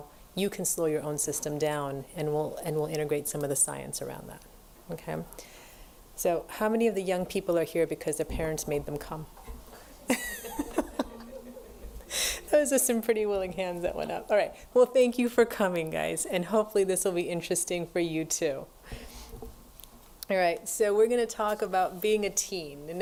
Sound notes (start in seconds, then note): 10.0 laughs; 10.1 audience laughs